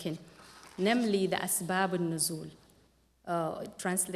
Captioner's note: non-english speech